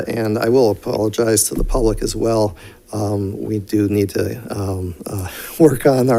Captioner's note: none